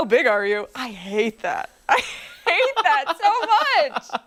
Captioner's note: laughter